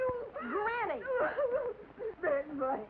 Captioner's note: granny cries